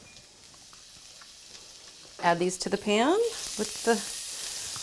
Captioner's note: mushrooms sizzle